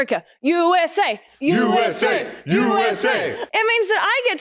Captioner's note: group Chant